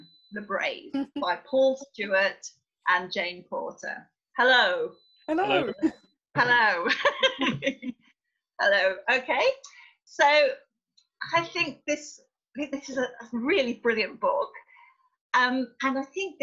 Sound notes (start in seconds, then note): 6.8 laughter